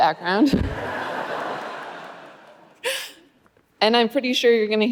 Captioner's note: audience laughing